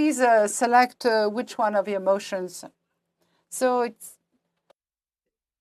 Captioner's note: speaking French